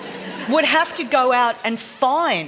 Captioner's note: laughter